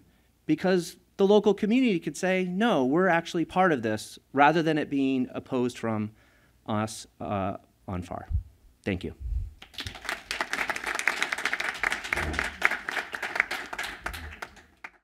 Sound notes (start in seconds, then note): 9.6 applause